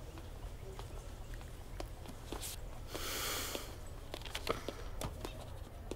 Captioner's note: Footsteps